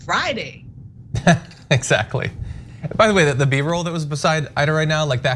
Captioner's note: laugh